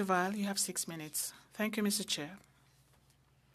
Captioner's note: speaking French